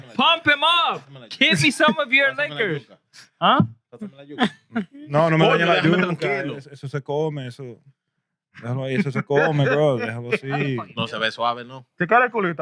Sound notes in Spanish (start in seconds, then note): 5.1 Hablando en idioma extranjero; 5.1 Riendo; 12.0 Hablando en idioma extranjero